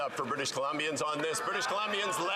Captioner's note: some Applause